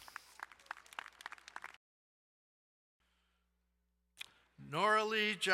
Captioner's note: crowd cheering and applauding